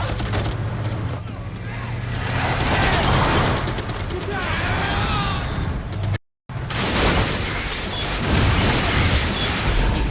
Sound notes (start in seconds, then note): 2.6 tires screeching; 6.1 driver groaning; 7.1 metal crunching